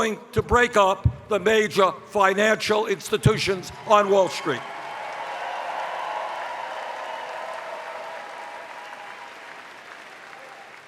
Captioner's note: cheers